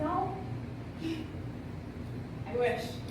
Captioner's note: Ana scoffs